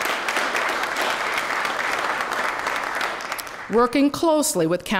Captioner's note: applause